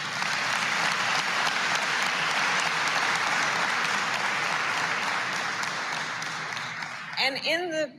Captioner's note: applause